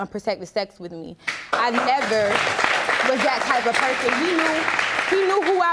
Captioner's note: audience applauding